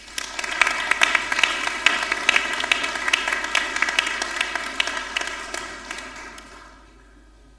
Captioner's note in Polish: oklaski